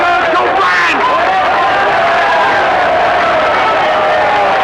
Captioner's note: audience cheering